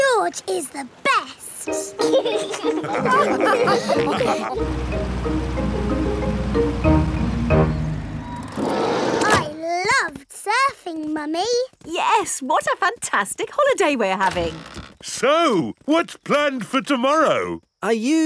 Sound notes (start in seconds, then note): 2.0 all laugh